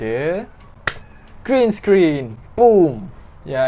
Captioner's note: clap